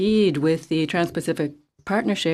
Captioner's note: speaking French